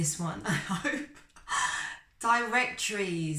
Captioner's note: chuckles